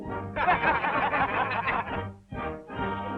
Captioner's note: laughing